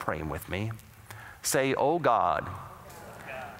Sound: audience repeats prayer throughout

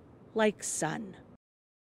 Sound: speaking in spanish

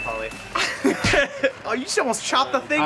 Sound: laughing

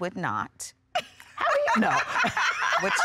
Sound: laughing

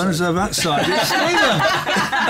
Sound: laughter

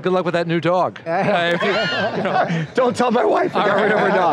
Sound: all laughing

